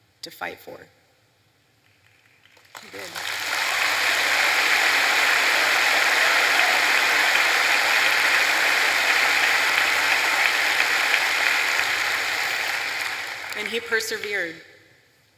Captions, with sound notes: to fight for. (applause) And he persevered.